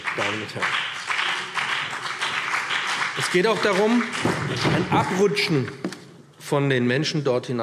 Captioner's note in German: Beifall BÜNDNIS 90/DIE GRÜNEN und CDU